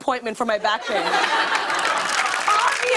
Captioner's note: laughter and applause